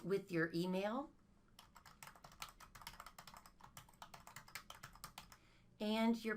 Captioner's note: typing on keyboard